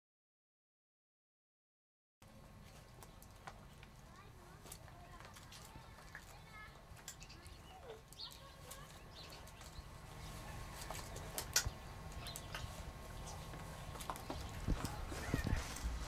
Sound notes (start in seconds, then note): 2.3 birds chirping; 2.4 rustling